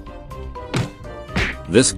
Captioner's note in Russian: удар x6; удар x5